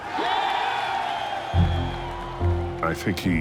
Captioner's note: crowd cheers